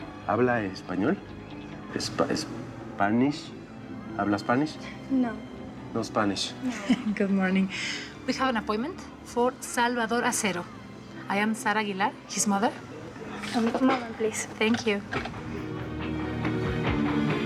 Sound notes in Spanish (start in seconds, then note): 8.3 risas